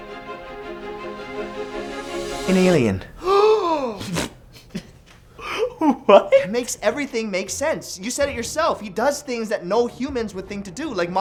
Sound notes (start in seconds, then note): 3.1 gasp!; 3.1 snorts; 5.9 laughing